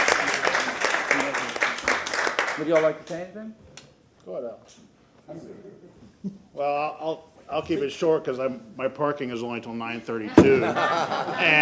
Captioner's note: applause